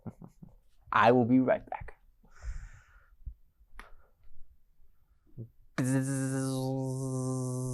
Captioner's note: bee buzzing noise